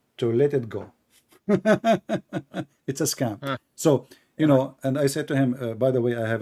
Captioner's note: Ketawa